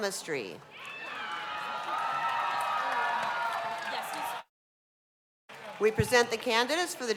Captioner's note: cheers and applause